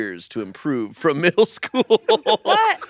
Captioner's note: laughs